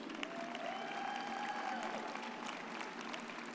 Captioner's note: audience cheers